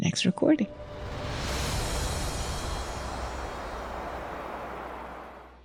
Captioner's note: soft music; wind whooshing